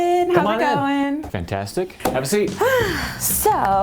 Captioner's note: sighs heavily